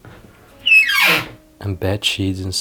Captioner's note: door squeaks sharply